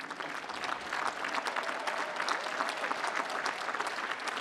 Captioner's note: applause